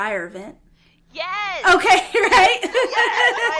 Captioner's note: laughter